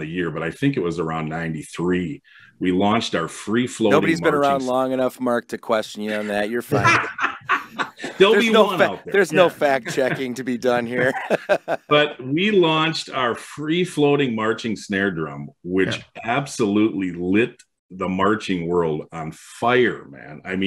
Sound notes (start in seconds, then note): 6.0 laugh; 11.3 laughs